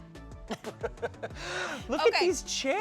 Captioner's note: laughs